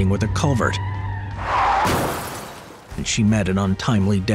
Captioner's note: tires screeching; car smashing